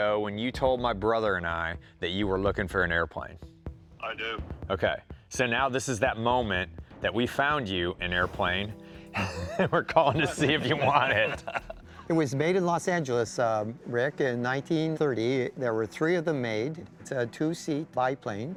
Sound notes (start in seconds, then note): 9.1 laughs